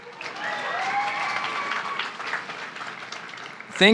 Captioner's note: applause